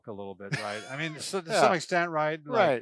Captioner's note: laughs